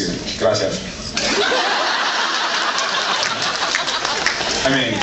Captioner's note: laughs